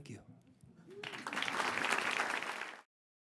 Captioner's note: clapping